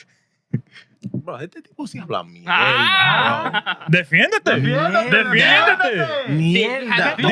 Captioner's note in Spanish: Hablando en idioma extranjero